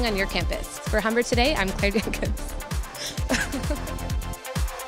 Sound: laughing

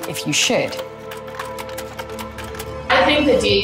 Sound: film clicking

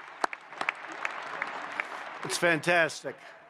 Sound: applause

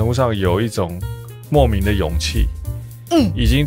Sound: hmmm!

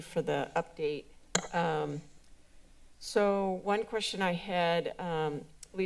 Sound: microphone sound

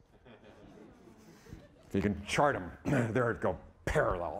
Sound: audience laughing

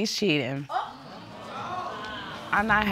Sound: audience exclaiming

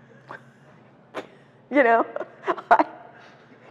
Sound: laughs

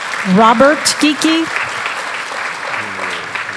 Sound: applause

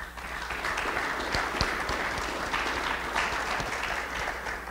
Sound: audience applauds

